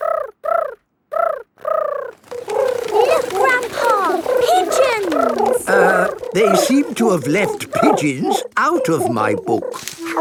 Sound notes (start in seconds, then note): 1.5 pigeons cooing